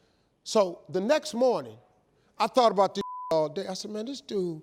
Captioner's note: beep